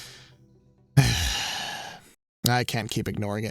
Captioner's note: exhales